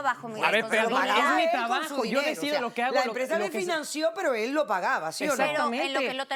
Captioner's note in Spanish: Hablan al unísono